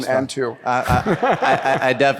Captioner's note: laughter